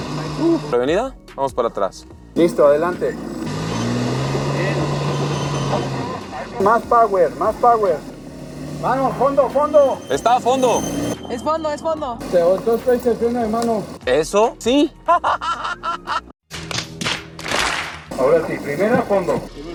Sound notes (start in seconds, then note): 2.3 engine revving; 15.0 laughing